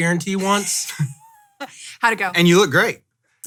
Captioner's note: laughs